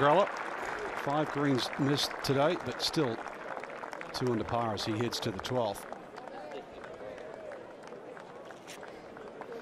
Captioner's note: applause